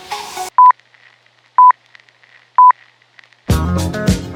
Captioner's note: numbers beeping